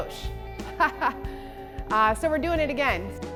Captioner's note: laughs